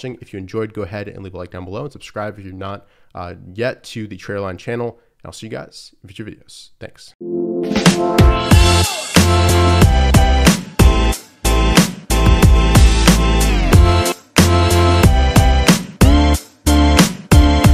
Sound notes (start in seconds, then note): 6.1 man speaks foreign language; 8.1 upbeat techno music